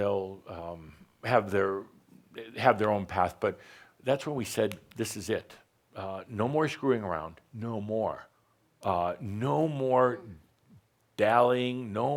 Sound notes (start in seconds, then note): none